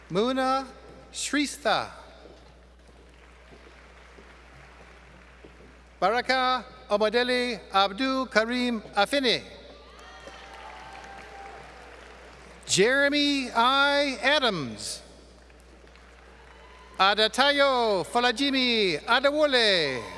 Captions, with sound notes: Muna Shrista. [ Applause ] Baraqah Omodele Abdul Kareem Afinnih. [ Applause ] Jeremy I. Adams. Adatayo Fadajimi Adawule.